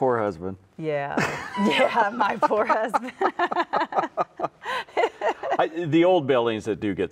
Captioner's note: both laugh